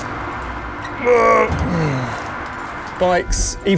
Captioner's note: grunts